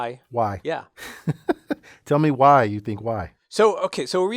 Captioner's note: laugh